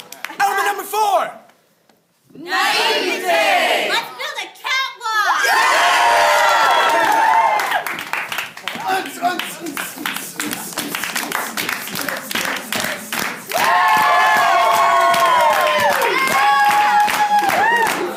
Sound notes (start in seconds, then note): 5.4 cheering; 13.5 cheering